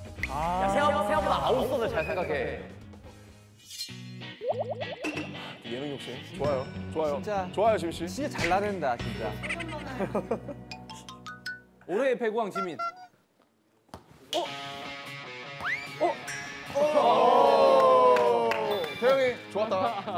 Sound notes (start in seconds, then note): 9.4 kekeke